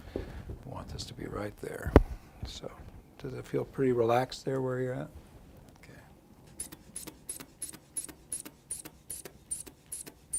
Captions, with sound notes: I want this to be right there. So does it feel pretty relaxed there where you're at? Okay. (air pumping)